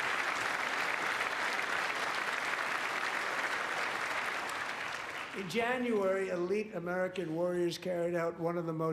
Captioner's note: applause